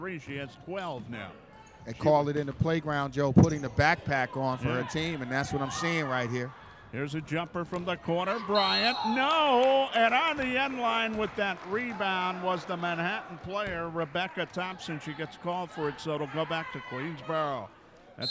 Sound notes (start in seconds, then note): 8.4 referee whistling